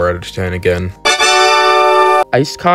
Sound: loud tada!~

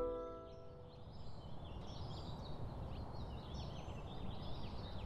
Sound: birds chirping

